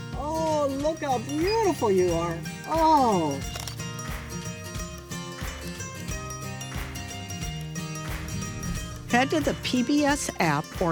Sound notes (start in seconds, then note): 3.5 camera shutter clicks